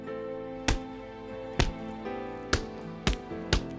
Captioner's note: fists thump